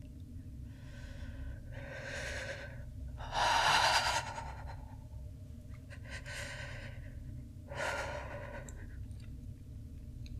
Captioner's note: shuddering breath